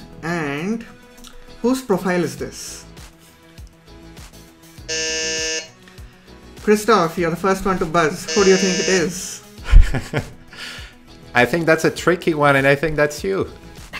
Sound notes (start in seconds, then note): 4.8 buzzer buzzing; 9.6 laughs